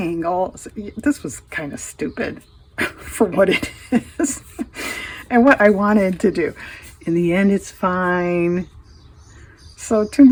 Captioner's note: laughs